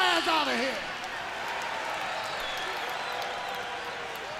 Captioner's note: crowd cheering